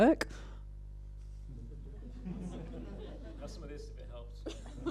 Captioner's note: laughter